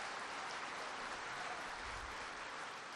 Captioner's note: applause